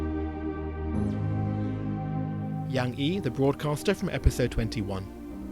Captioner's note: voiceover